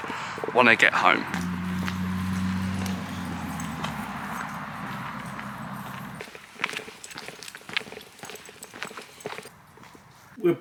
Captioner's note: break, footsteps crunching on the floor